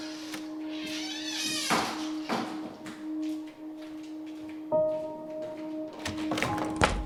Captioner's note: door creaks; solemn piano music